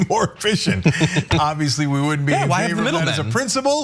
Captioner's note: laugh